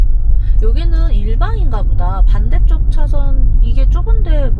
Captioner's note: traffic